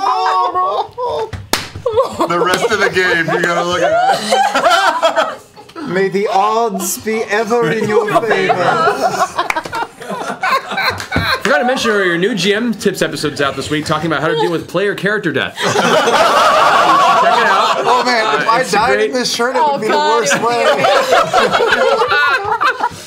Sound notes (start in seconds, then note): 7.6 laughter; 15.5 laughter; 19.9 laughter